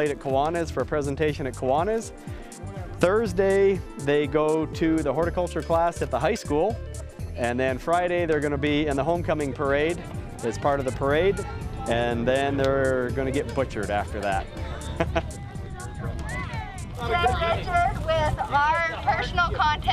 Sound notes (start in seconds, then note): 14.8 laughter